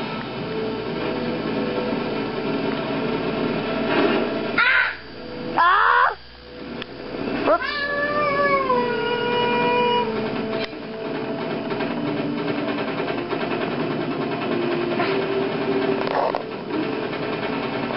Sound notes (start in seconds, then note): 8.1 makes airplane noises